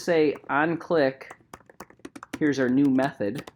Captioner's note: keyboard clicking